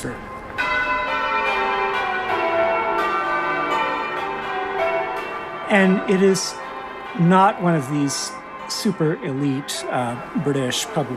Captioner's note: soundbite of bells ringing